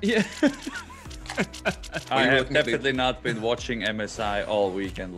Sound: laugh

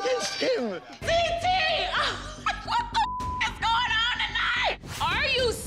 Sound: beep

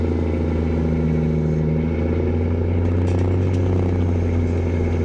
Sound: truck engine roaring

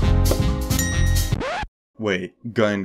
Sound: music and dings; record stop sound

